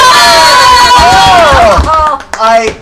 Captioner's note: cheering